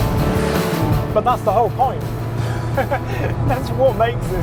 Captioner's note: groovy rock music continues; chuckles